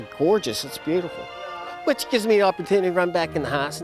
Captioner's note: laughs